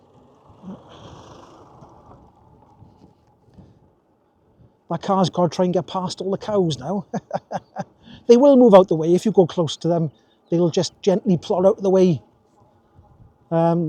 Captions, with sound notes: (sighs) My cows gotta try and get past all the cows now. They will move out the way if you go close to them, they'll just gently plod out the way.